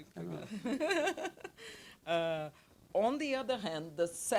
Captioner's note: laughs